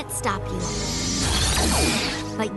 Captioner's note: zap